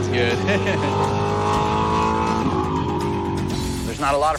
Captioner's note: engine rumbling; laughs